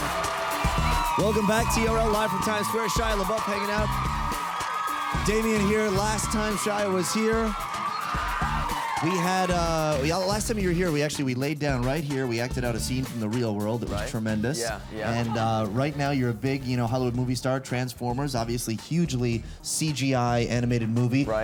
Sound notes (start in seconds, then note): 0.2 audience applauds; 2.2 audience cheering drowns the host out; 4.4 audience applauds